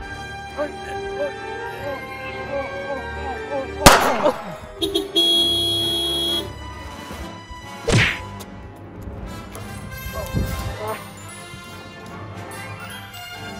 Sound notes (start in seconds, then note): 0.2 struggling sounds; 3.8 gunshot; 5.2 beeeeep